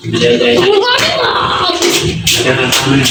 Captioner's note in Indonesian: tertawa